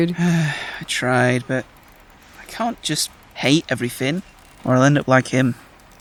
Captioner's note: sighs